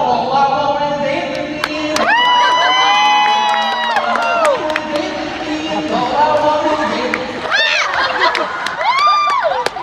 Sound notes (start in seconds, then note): 1.5 crowd cheering; 7.3 crowd laughing and shouting